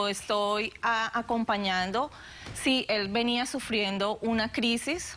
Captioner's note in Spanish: Susurra